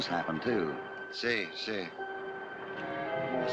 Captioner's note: in spanish